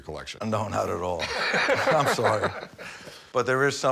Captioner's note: Rick laughs